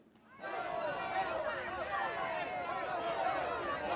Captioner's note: indistinct shouting